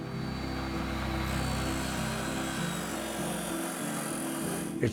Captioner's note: metal grinding sounds